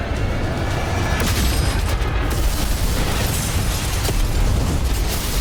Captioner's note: spacecraft crashing